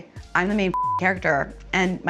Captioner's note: beep